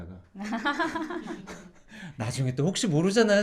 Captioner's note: laughing